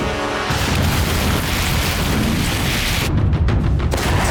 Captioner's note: intriguing music swells; flames roaring; rocks crumbling